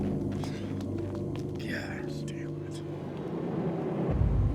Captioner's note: dramatic music continues; sighs